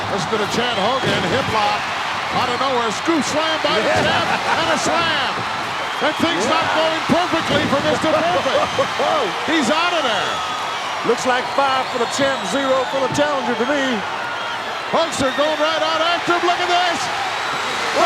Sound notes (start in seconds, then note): 4.2 hillbilly chuckling; 8.4 hillbilly chuckling; 14.0 audience cheering